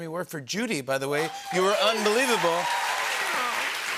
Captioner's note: cheers and applause